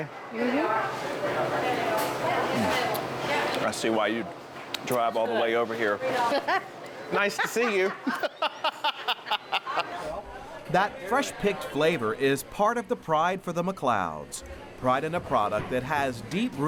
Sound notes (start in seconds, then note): 7.2 laughing; 7.2 laughs